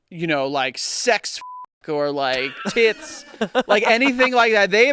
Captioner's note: beep